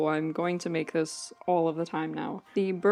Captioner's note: none